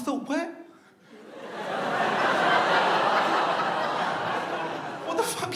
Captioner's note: audience laughs